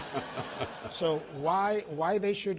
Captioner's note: laughter